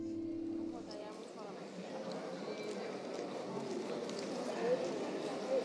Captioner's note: people chattering